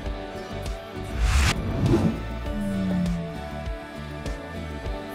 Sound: graphics whoosh; upbeat electronic music continues

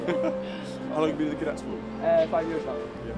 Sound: chuckles

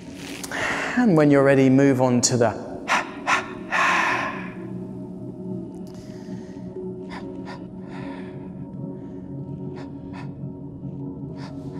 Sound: 3 Exhales

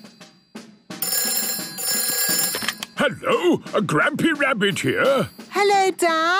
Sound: phone ringing

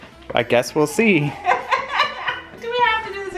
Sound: laughing

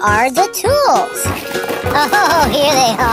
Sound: clatter of falling tools

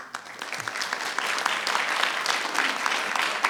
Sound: applause rings

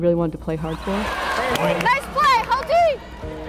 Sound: crowd cheering

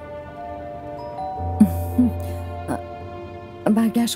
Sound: doorbell rings

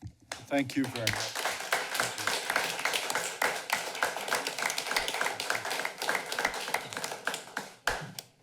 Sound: applause

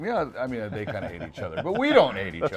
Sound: laughing

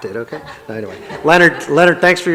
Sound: audience laughs

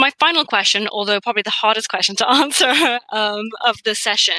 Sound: laughs

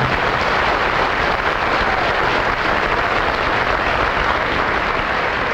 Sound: clapping

